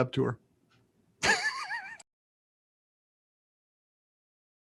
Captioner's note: laughs